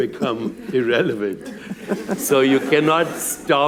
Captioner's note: laughter